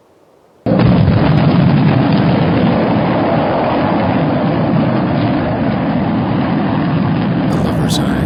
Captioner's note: rocket blasting off